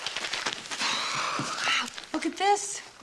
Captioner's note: exhaling